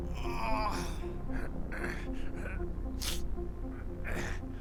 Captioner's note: ex moaning; dramatic music